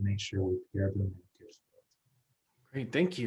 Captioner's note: speaking faintly